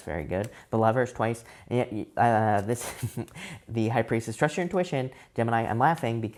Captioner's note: chuckles